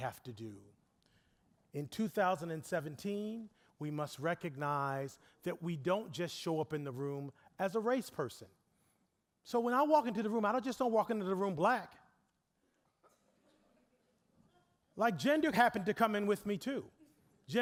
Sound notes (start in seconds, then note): 13.0 audience chuckling